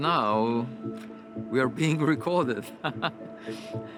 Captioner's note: chuckles